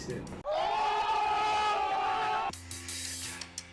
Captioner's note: crowd shouting; ambient music